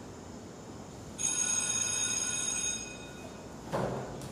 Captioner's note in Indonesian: bel berbunyi